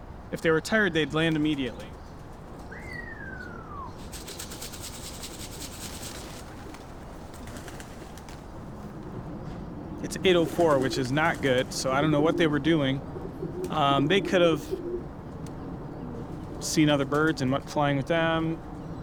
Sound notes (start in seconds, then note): 2.8 whistling; 3.0 feed canrattling